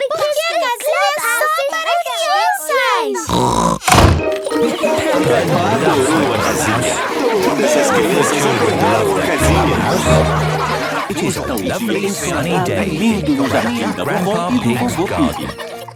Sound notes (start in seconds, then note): 3.2 snorts; 10.5 all laughing